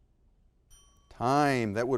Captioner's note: bell ringing